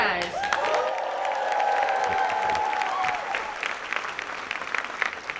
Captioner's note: audience cheers and claps